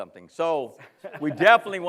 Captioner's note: laughs